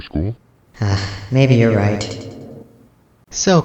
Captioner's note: sighs